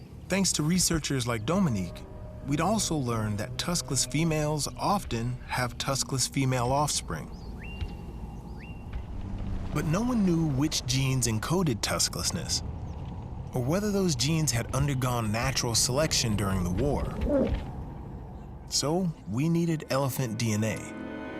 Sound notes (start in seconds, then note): 7.6 birds chirp